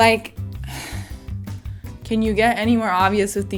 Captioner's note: sighs